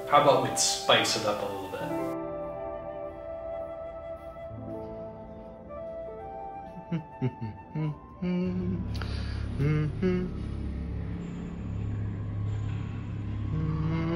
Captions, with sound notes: How 'bout we spice it up a lil' bit? [mindless humming] empty.